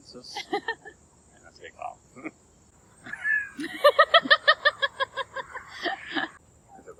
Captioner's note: laughing